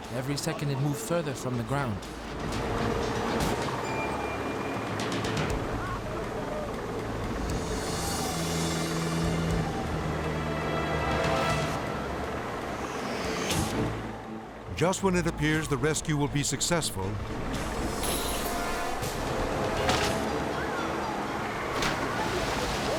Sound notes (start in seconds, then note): 2.9 helicopter blades whirring; 2.9 tense music; 19.8 cable snapping